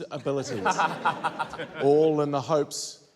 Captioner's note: laughter